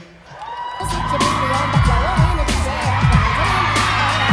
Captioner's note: audience cheering